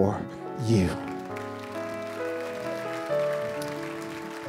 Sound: applause

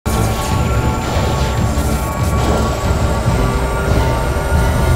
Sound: high pitched whirring

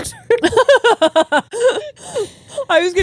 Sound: both laughing

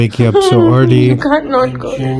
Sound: laughs

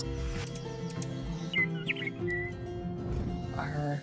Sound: bird chirping

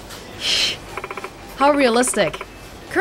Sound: exhales

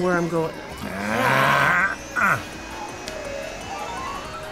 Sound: anxious groans

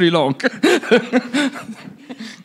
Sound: laughs

